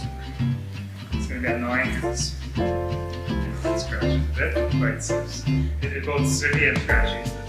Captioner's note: technical chatter about the wheel